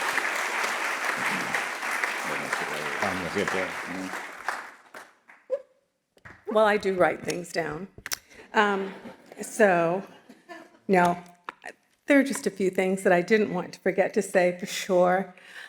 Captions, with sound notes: Well, I do write things down. So... (audience laughing) Now, there are just a few things that I didn't want to forget to say for sure.